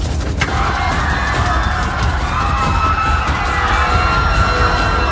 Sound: people Screaming

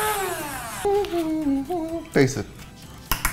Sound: humming

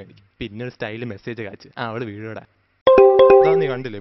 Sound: message tone

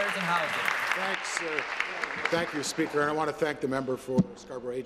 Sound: applause

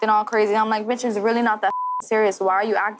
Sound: beep

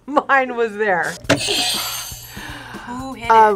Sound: bell rings

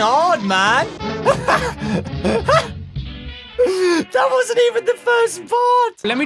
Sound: laughs

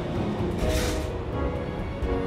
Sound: clang

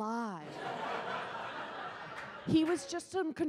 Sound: audience laughs

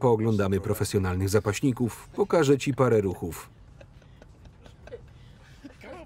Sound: laughing

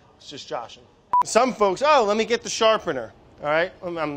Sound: beeps

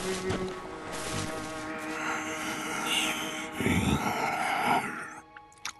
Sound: snoring

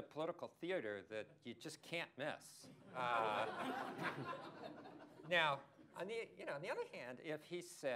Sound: laughter

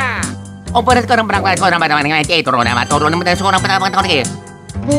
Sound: more Italian gibberish

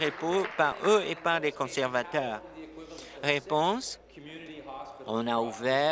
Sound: applause

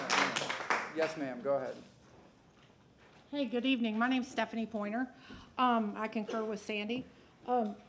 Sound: applause

